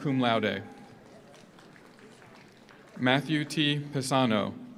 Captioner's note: audience cheers; audience applauds